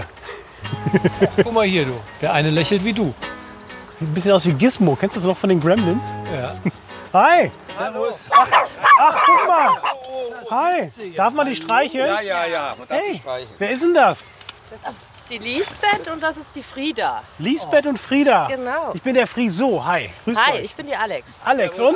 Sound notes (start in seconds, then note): 8.3 yelp